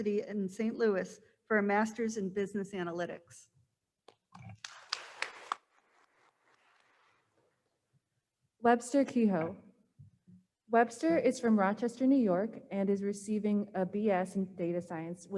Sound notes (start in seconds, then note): 4.5 attendees applauding